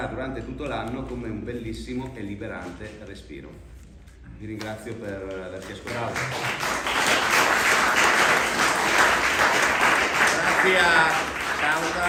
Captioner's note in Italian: Applauso